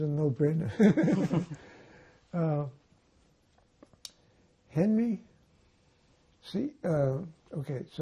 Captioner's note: laughing